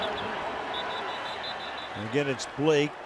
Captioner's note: whistle blowing